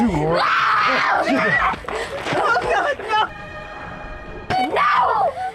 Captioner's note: Mia screams like an animal